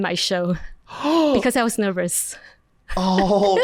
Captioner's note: gasps